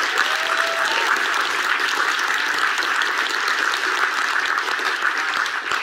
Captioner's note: audience applauds and cheers